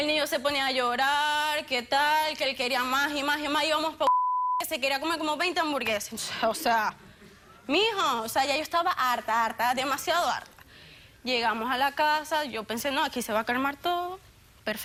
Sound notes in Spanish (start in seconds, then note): 6.6 risas